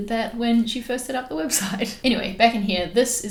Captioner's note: laughs